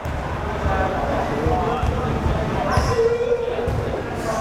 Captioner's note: crowd chatter